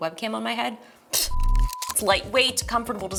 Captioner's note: beep